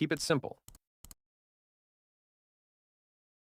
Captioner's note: typing